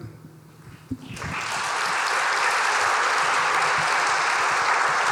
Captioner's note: audience applauding